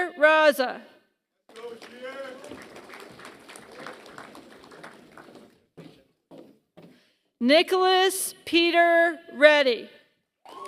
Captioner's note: applause; applause